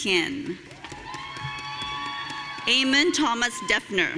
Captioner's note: audience cheering